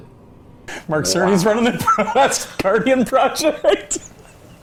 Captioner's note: laughs